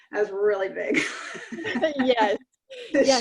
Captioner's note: laughs